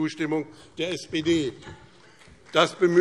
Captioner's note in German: Beifall BÜNDNIS 90/DIE GRÜNEN und vereinzelt CDU